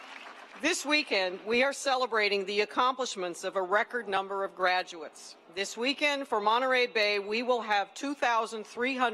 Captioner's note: applause